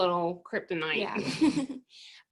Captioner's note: laugh